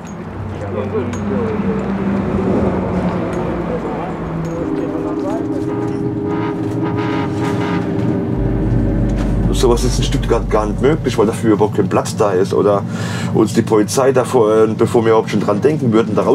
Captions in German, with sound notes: (Entfernter Straßenlärm) (Leises Quietschen der Gleise) So was ist in Stuttgart nicht möglich, weil dafür überhaupt kein Platz da ist. Oder uns die Polizei, bevor wir dran denken,